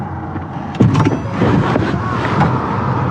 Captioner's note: car d doooor opopene